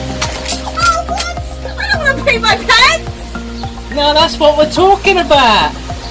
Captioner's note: laughing